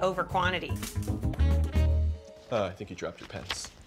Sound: pens clatter to floor

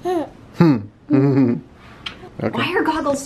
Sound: laughs

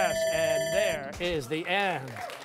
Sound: bell ringing

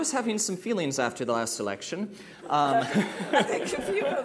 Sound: laughter

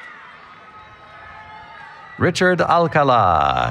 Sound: cheering

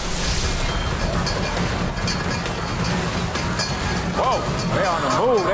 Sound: water rushing; metal clanking

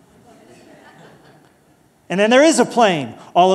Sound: laughter

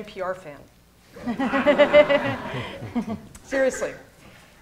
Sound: laughter

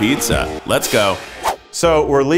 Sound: whoosh

